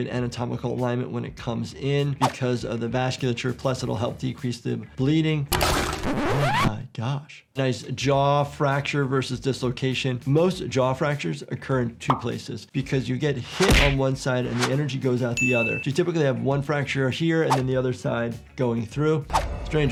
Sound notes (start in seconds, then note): 5.6 record screeching